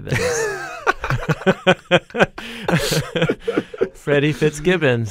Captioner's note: both laugh